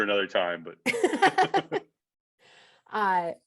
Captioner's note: laughing in unison